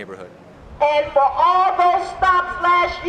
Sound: female Through Megaphone

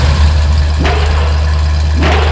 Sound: slam

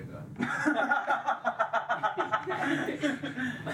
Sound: all laugh

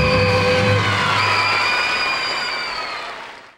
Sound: audience cheering

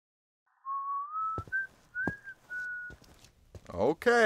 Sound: Abram whistling

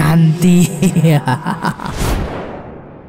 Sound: laughs

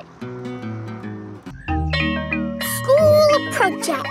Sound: school bell rings

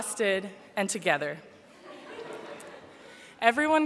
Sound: laughter

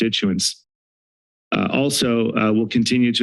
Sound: silence

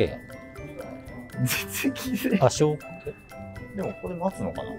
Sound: laughing

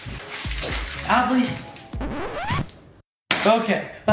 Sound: record scratches

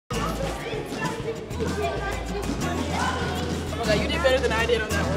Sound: children chattering

